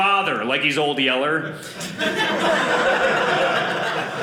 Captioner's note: audience laughing